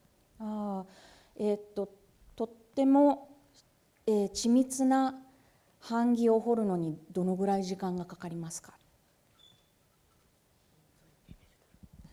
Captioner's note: speaking japanese